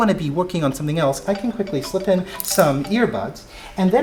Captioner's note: phone rings